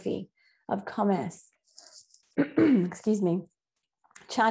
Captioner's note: cough